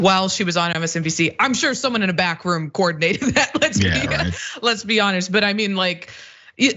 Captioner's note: laugh